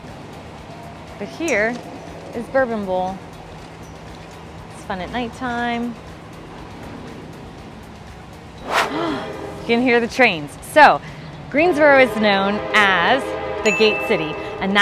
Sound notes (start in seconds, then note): 8.9 gasps; 9.0 train whistle blows